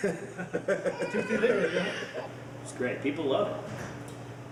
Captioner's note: laughing